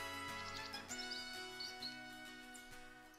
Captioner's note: bird chirps